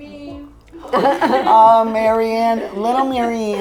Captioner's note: all giggle